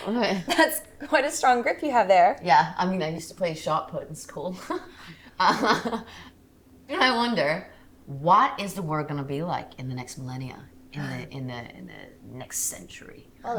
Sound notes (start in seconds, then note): 5.4 Maisie laughs